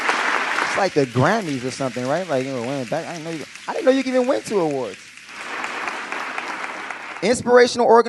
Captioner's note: applause